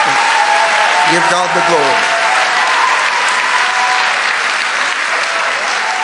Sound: congregation cheering

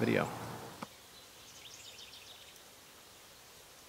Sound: birds chirping

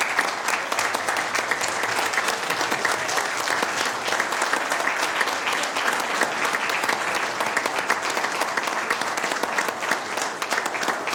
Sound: applause

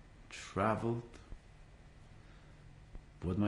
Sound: pauses for 3 seconds

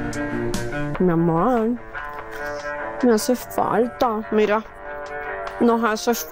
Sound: Esperanza speaks in Spanish

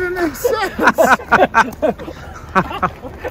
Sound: laughing

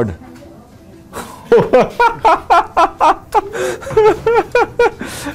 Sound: laughter

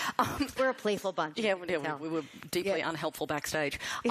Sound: laughter

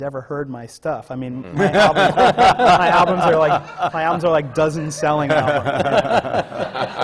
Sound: laughter

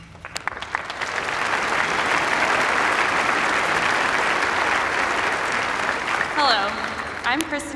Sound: applause

